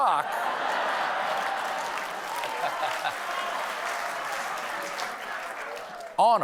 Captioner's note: laughter; applause